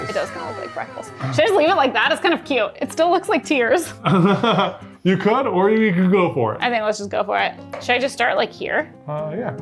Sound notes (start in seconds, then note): 4.0 laughing